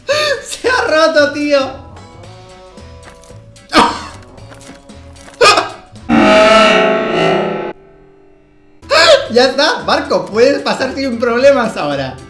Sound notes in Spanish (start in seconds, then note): 5.4 Risas Diabólicas